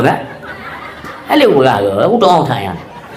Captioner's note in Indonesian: tertawa